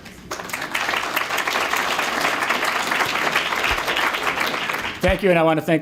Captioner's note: applause